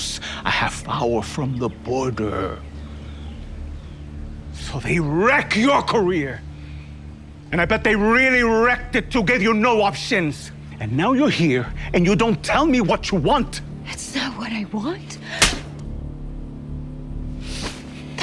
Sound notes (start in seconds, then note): 15.4 hand smacks face; 16.3 tense music